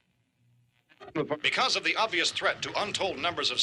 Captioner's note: radio static; radio broadcast